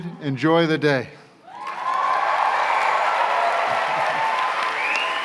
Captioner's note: cheers and applause